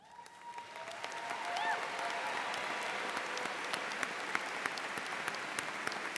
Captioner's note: audience applauding and cheering